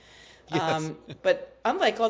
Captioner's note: laughs